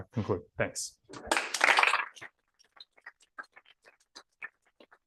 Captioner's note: applause